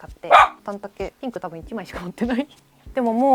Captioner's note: laughs